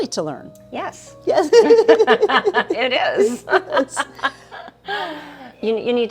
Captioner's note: both laughing